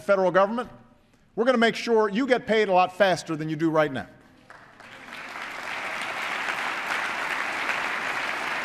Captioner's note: applause